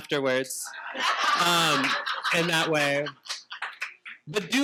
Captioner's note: participants laughing